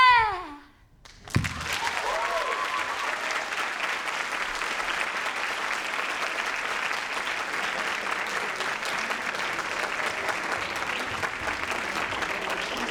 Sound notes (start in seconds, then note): 1.2 applause